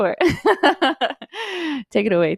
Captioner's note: laughs